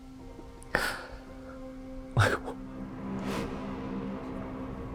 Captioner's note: whimpers